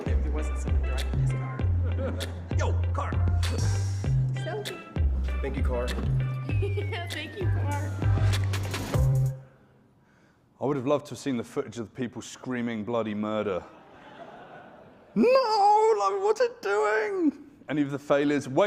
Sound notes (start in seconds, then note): 1.3 laughs; 6.3 giggles; 13.6 audience laughing